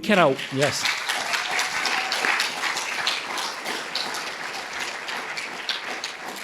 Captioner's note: audience cheering and applauding